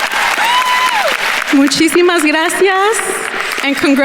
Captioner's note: attendees cheering and applauding; speaks in Spanish